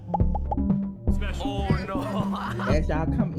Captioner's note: laughs